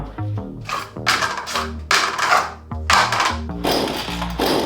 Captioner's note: clattering